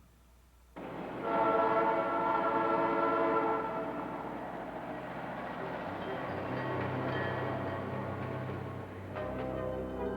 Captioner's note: train sounds; ominous music